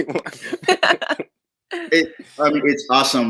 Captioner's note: all laugh